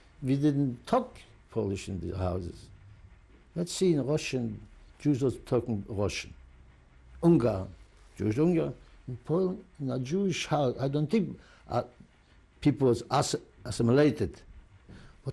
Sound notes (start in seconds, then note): 7.1 non-english